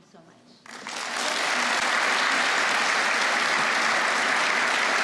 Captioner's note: applause